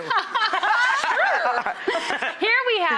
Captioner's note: they laugh